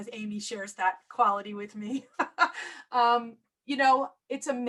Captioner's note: laughter